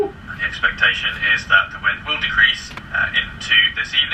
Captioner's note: none